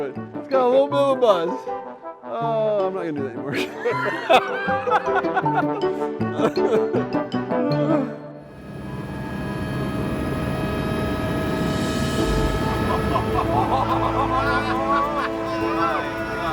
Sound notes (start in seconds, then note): 3.4 laughing; 5.3 playful instrumental music; 8.5 helicopter whirring; 12.2 cheering and laughing